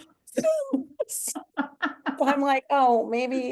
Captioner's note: chuckles